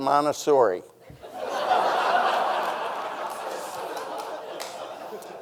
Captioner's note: audience laughing